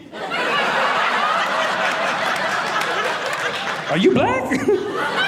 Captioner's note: audience laughing